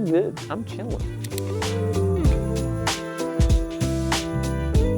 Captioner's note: scene clicks; relaxing music continues